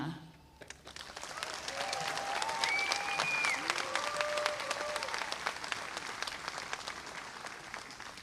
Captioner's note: applause